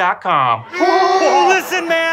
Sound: groaning

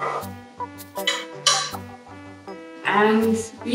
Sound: metal clanging

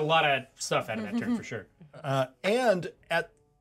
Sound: speaker chuckles

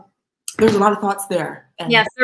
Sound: laughs

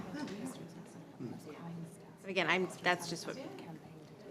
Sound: people chattering distantly

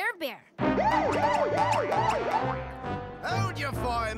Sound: siren

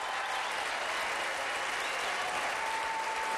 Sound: applause

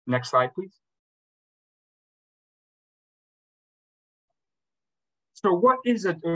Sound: silence

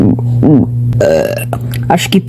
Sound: burp

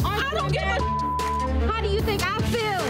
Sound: beep

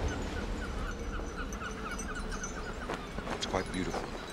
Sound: seagulls cawing

